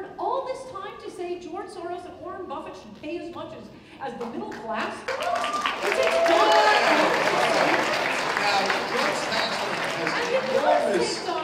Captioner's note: applause